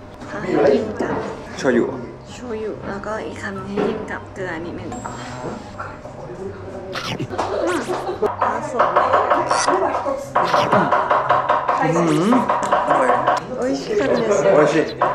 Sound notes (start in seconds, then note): 6.9 Mmmm!; 10.5 Mmmm!